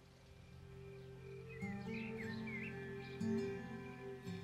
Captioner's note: cricket chirping; gentle classical music; bird chirping